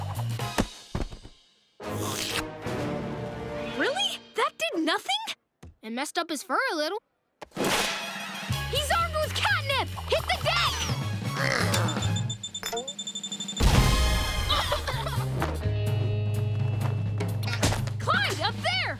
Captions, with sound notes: - Really? That did nothing? - It messed up its fur a little. He's armed with catnip. Hit the deck! [beeping] Clyde, up there.